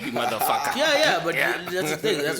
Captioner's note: laughs